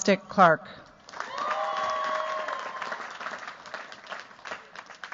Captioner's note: cheers, applause